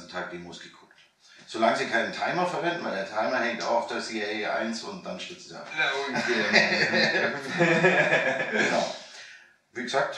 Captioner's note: laughing